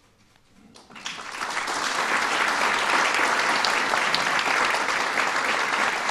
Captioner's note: applause